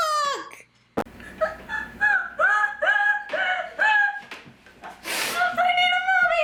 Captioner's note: wheezing